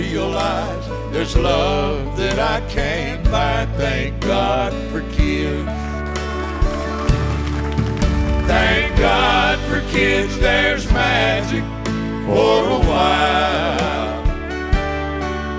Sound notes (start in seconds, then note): 5.9 cheers and applause